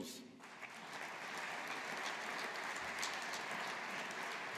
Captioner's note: audience applauding